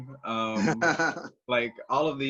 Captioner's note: laughs